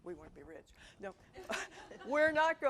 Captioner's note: audience laughing